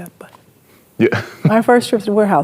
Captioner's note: chuckles